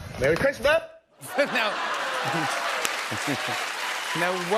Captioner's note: cheers and applause